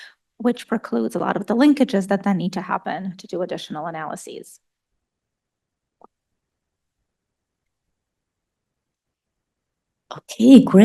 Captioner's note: pause